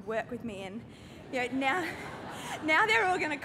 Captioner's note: laughter